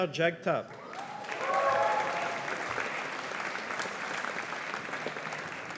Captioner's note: audience applauding